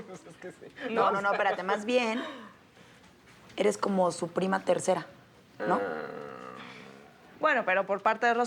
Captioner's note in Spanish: Risas